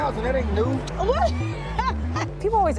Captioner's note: laughs